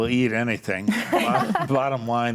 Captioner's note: group laughs